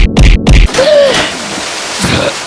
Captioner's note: gasp for air